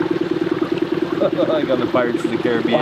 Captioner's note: chuckles